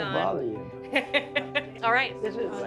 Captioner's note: laughs